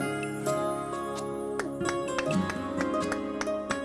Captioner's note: mellow music; clapping